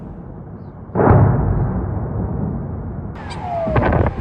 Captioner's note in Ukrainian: вибух